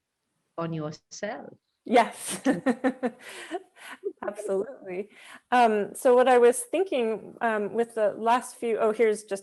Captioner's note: laughs